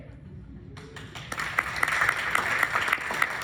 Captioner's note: clapping